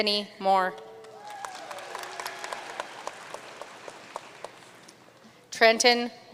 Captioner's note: audience cheering and applauding